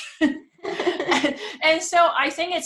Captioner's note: they laugh